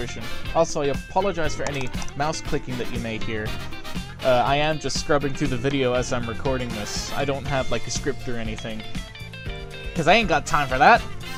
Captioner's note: clicking noises